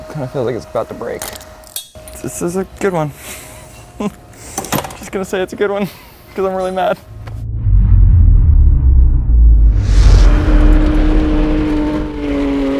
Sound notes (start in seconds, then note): 1.4 object snaps; 8.9 engine revs